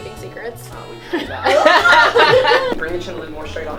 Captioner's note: everyone laughing